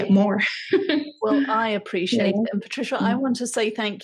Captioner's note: laughs